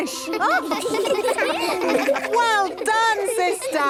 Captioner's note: children laughing